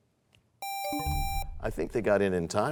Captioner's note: buzzer sound, bell chimes